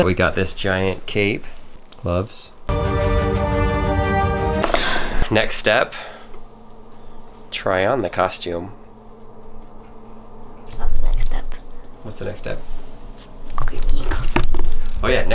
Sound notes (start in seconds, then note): 2.7 music; 6.0 breathes